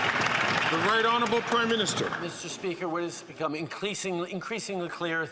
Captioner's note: some Applause